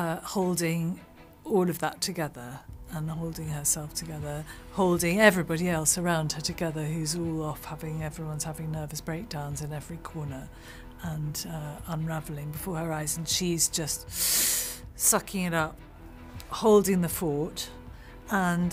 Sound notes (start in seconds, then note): 14.1 inhales